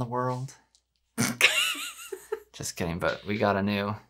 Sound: laughing

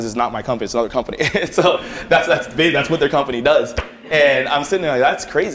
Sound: laughter

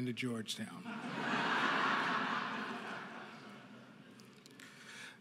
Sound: audience laughing

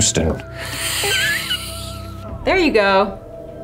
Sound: wheezily laughs

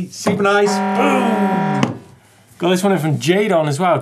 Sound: horn shouting

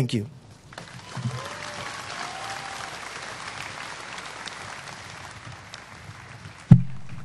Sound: applause

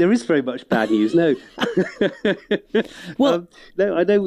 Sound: laughs

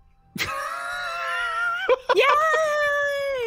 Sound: laughs

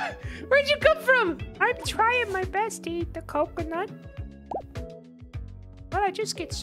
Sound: little guy voice

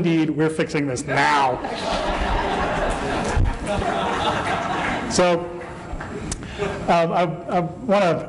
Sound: laughter

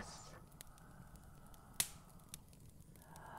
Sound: A single mournful cry goes up

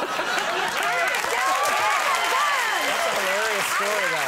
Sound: audience laughing

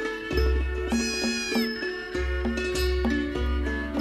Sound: baby lamb bleats

